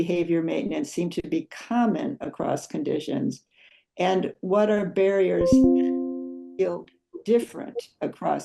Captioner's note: computer notification noise